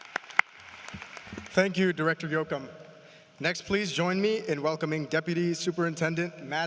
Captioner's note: applause